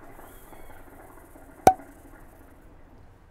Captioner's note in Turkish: nargile sesi